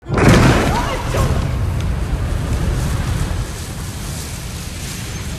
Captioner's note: shouts